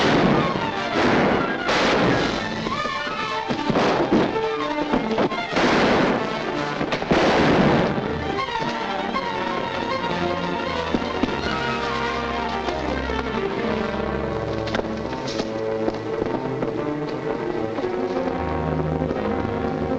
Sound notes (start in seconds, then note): 0.1 guns firing; 3.8 Vince thudding down stairs; 5.7 gun firing; 8.7 thrilling music; 16.9 tense music